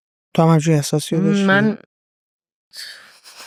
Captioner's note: laughs